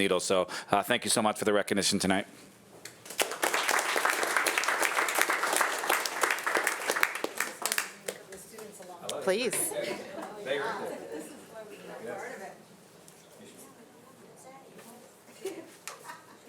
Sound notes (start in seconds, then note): 3.0 audience applauding